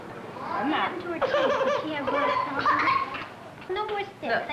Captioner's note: coughing